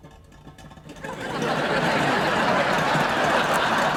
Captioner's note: audience laughs